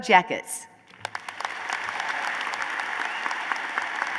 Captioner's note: applause